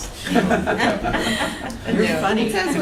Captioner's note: laughter